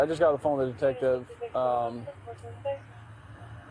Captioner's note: radio chatter